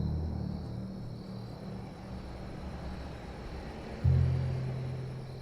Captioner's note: wind whistling